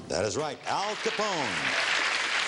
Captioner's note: audience clapping